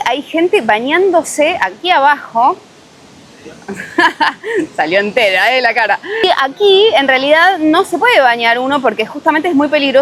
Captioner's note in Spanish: risas